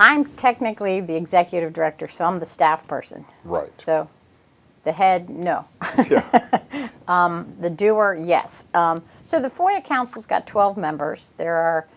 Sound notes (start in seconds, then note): 5.8 chuckles